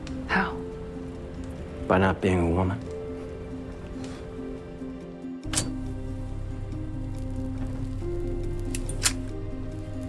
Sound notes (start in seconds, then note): 5.4 metal lighter ignites; 8.7 metal lighter clicks shut